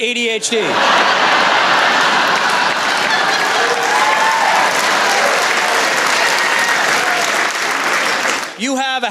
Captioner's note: laughter